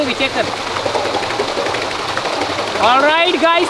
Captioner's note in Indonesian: Suara turbin